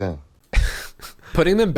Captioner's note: chuckles